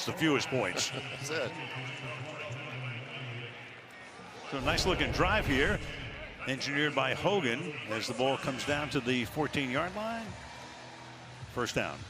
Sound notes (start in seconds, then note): 0.6 laughs